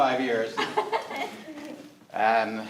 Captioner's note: all laughing